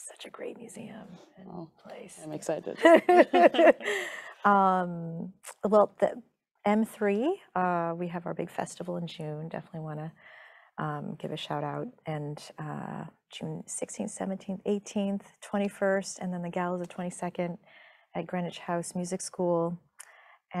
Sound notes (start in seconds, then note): 2.7 laughing